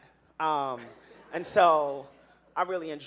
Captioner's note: audience laughing